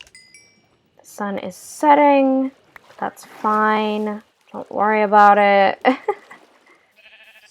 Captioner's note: laugh